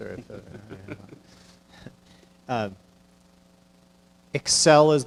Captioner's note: chuckling